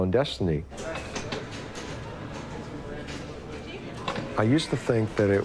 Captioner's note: bar ambience